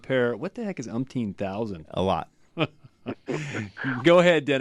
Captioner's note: laugh